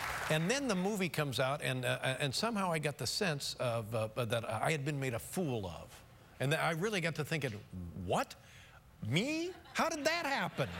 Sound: applause

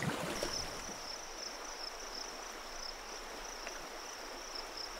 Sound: crickets chirping

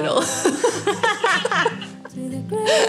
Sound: laughter

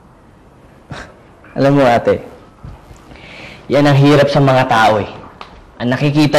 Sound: scoffs

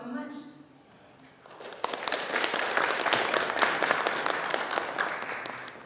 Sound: audience applauding

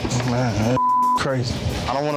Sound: beep

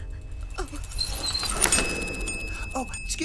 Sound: bell rings loudly

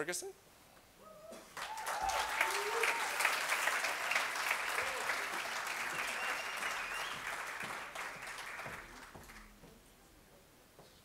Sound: cheers and Applause

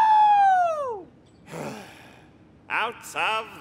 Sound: sighs

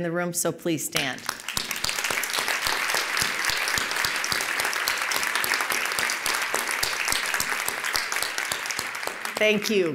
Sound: applause

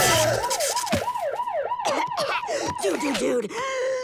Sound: coughs

